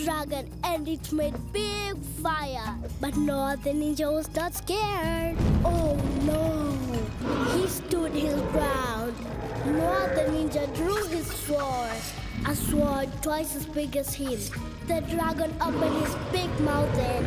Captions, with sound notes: and it made big fire. But Noah the Ninja was not scared! Oh, no! (roaring) He stood his ground. Noah the Ninja drew his sword, a sword twice as big as him. The dragon opened his big mouth and...